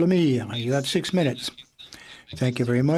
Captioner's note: speaking in French